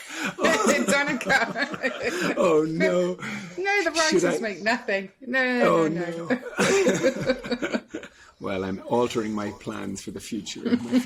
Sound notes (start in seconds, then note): 3.3 all laughing; 6.3 laughing